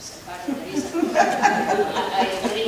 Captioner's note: audience laughing